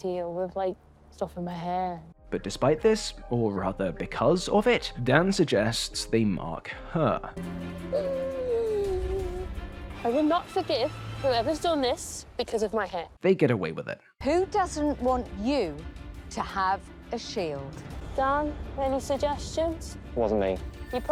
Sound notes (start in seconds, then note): 7.8 distressed noises